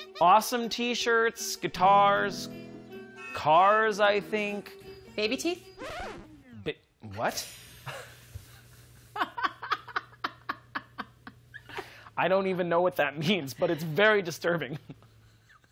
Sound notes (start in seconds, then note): 1.8 out of tune guitar chord, horn honking; 5.8 record scratching; 7.8 chuckles